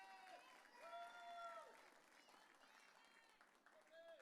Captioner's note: audience cheering